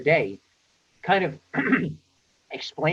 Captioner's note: clears throat